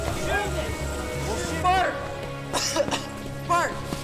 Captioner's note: coughs